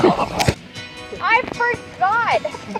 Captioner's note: laughter